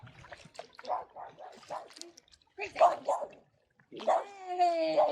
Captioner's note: dog barking